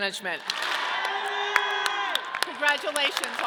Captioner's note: audience clapping